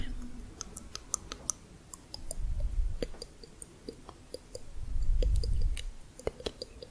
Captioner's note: tongue clicking